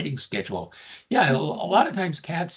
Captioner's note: laughing